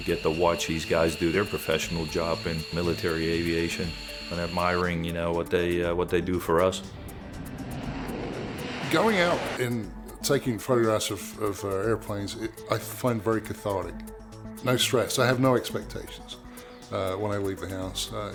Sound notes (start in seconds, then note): 6.8 jet engine